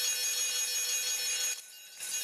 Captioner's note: ringing